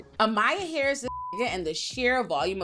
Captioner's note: beep